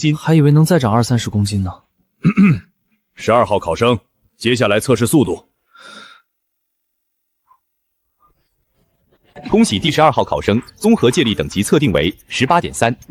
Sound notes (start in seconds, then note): 2.2 cough